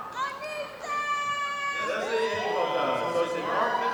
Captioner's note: audience applauding; audience speaking in foreign language